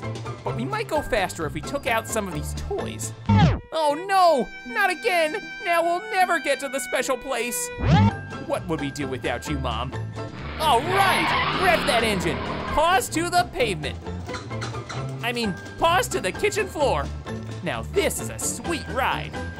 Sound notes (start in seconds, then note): 14.1 beeping